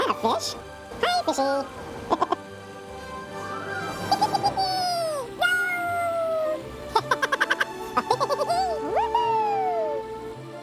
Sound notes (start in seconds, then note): 3.7 laughs; 4.3 laughing